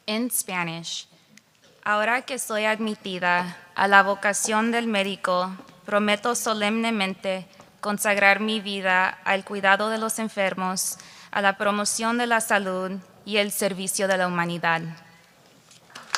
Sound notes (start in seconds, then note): 1.8 speaking spanish